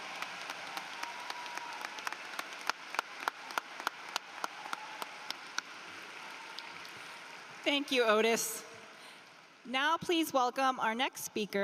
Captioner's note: cheering and applause